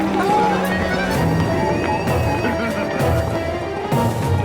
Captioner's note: crowd cheering